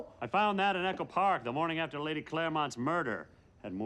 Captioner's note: none